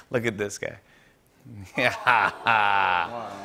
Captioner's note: laughs